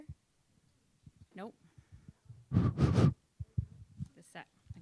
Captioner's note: blows air